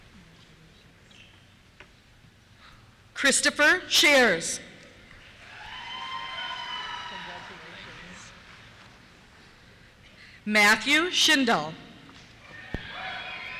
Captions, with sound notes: Christopher Schares. (cheers) Congratulations. Thank you. Matthew Schindel. (cheers)